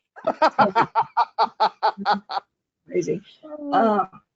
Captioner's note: laughing